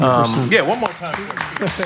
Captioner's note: applause